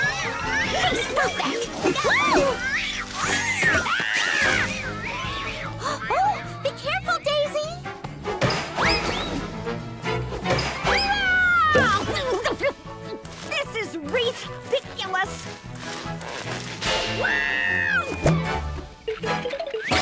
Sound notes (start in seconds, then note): 0.1 screeching; 4.3 cat yowling